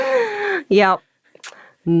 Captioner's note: laughing